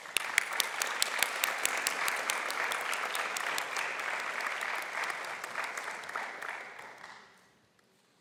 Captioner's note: applause